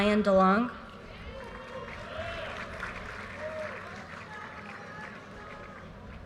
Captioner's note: audience cheers and applause